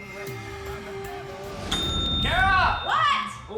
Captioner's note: dings